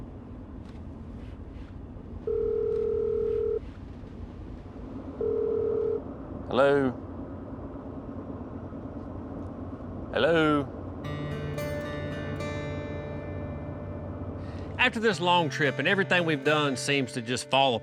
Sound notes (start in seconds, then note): 2.3 dialing, ringing